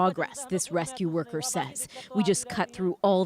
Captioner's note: speaking alternate language